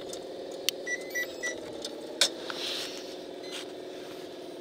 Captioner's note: machine beeping